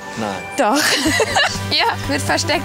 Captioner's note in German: lacht